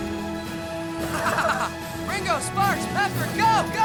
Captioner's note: Ozz laughing